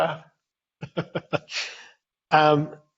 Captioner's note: laughs